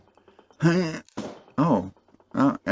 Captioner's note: pop